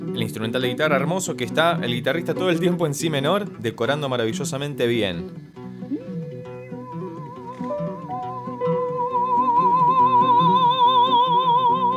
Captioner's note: laughs